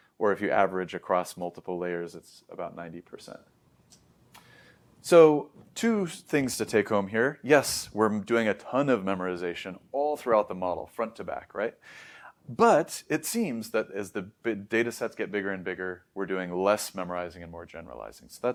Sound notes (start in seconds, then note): 4.3 smacks lips; 4.3 inhales; 11.8 inhales